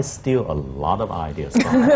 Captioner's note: laughter